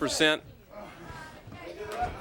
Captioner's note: crowd chatter